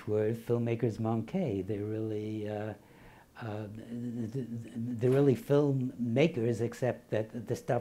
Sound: foreign language

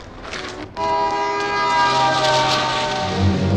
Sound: car honking; suspenseful music playing

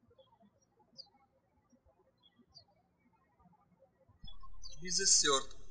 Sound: birds chirping

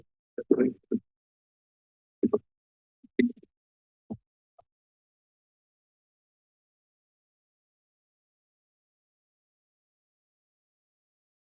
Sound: silence

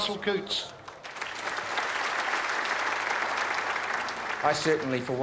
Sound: audience applauds

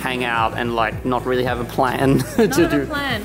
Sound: laughs

